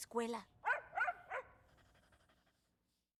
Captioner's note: barks